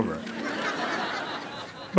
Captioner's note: laughter